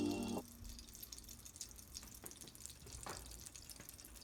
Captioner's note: fulfilling sound